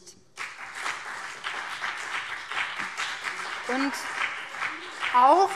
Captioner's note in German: Beifall